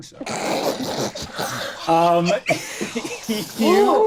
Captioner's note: all laughing